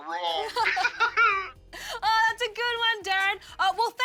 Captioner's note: laughs